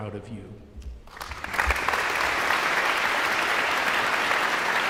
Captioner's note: audience applauds